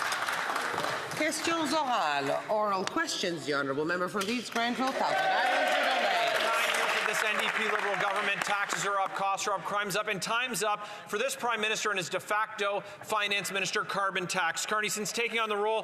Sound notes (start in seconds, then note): 2.7 some Applause